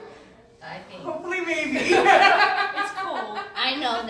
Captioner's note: laughs